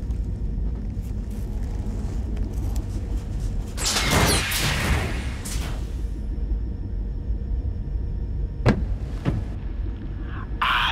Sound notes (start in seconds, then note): 3.7 space ship door opens; 8.7 knocks on window